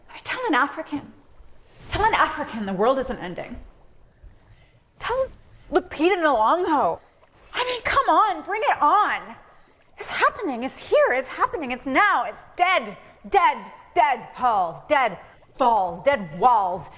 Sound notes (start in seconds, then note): none